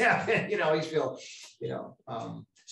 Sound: laughs

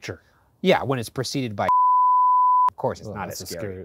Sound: beeping

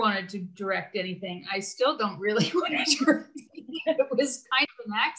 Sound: laughing

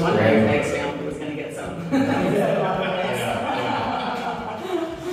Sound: chatter and laughter

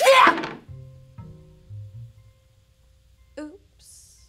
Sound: sneezing; crystal thuds

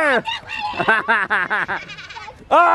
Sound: laughs

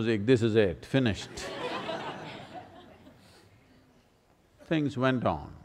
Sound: laughter

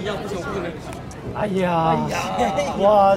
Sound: laughing

